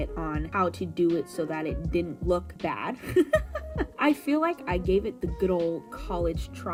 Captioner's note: hearty laughter